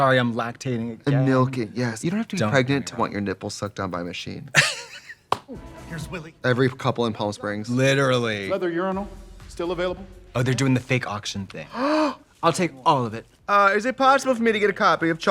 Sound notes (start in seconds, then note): 4.5 Katya laughs; 11.7 Trixie gasps